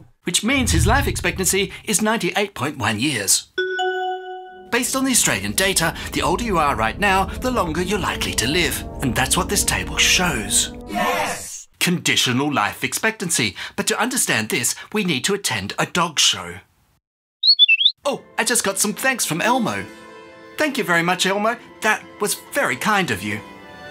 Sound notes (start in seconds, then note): 17.4 chirp